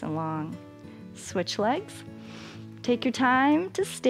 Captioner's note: inhales